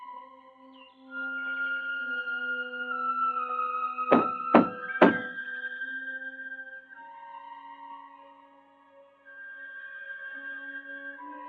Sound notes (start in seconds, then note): 4.1 pounding; 9.2 suspenseful music